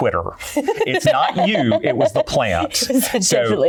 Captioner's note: laughter